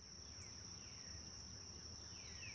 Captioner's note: birds and wind